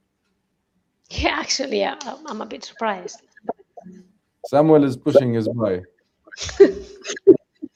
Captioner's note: laughter